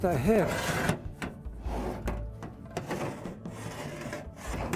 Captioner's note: pipe clanging